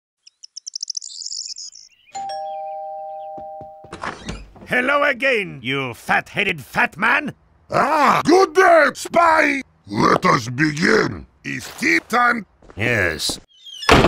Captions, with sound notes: *Birds Singing* *Door Bell Ring* Hello again you fat heady fat man! Ah good day Spy! Let us begin! It's tea time! Yes..